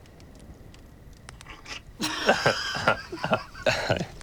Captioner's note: both laugh